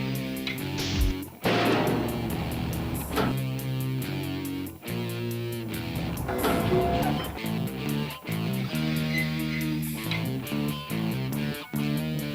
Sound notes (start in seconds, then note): 1.3 dumbwaiter clanking